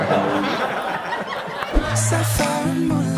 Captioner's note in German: Gelächter